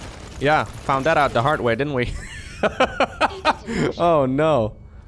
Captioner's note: laughs